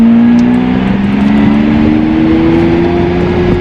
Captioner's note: engine sounding